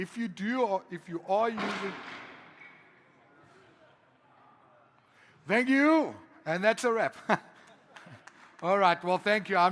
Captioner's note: slamming